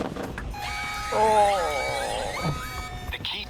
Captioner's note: groans